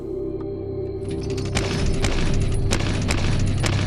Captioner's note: gunfire